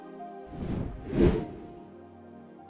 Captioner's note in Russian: Звук перехода